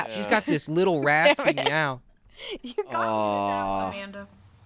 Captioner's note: laughs